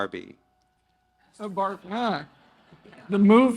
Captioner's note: audience laugh